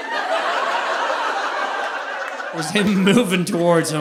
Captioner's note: audience laughing